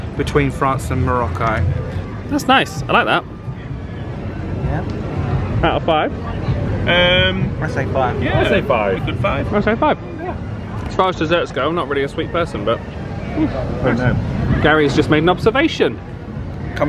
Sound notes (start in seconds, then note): 13.2 mutters